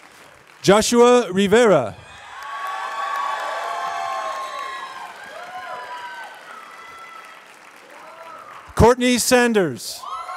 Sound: applause

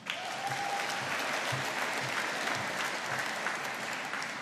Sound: audience applauding

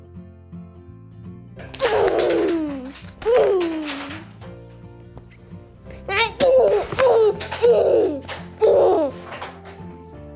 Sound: excited grunting

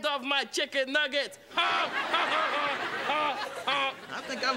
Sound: laughing

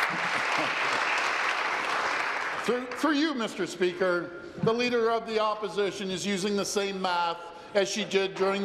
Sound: applause

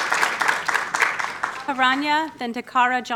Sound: applause

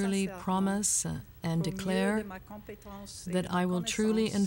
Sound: speaking French

